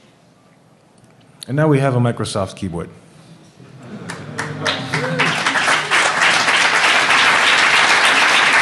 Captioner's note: applause